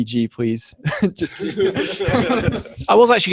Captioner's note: laughter erupts